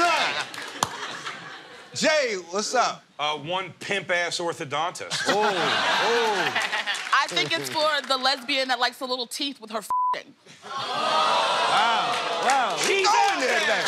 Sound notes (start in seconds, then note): 0.2 laughs; 5.1 laughter; 10.7 audience groans